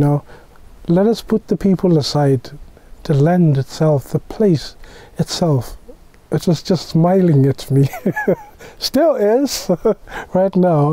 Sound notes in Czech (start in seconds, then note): 7.8 smích